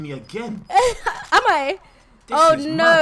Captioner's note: laughs